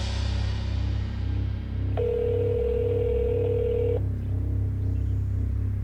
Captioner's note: phone ringing